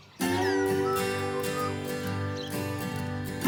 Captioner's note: birdsong